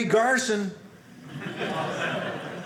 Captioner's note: audience laughing